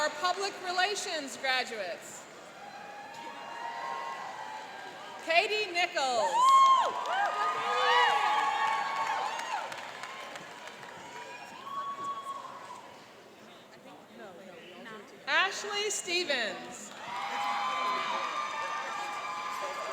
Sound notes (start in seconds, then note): 2.5 cheering; 6.2 cheering and applauding; 16.8 cheering and applauding